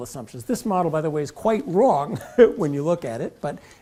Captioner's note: laugh